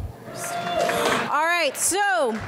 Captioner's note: audience applauds